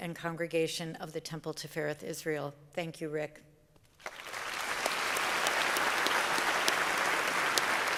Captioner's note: applause